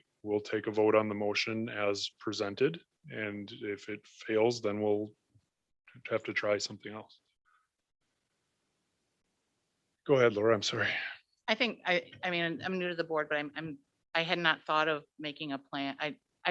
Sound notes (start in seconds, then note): 10.7 sighs loudly